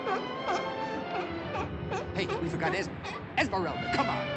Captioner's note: barking